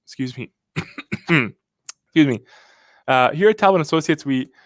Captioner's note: coughs